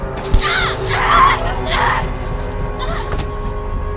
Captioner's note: screaming